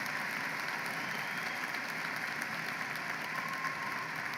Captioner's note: applause